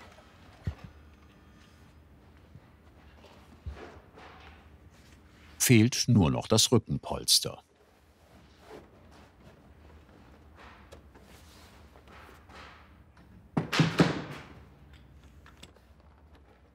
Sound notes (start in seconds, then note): 13.4 banging in the background